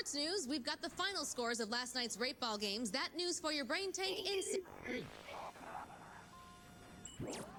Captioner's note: static